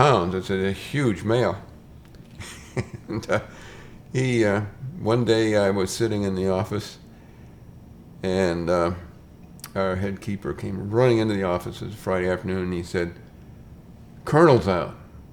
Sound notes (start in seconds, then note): 2.2 chuckles